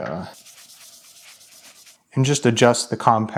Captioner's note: rag rustling